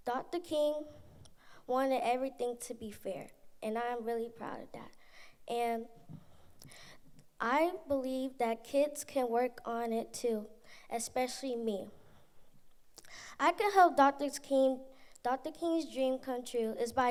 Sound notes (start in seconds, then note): none